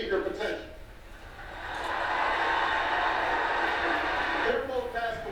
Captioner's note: audience cheers loudly